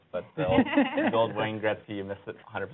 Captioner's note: laughs